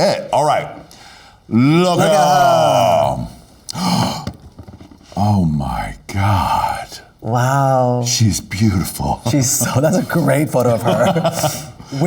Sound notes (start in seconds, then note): 3.8 gasps; 10.6 laughs